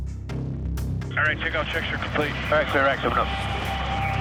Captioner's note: man On Radio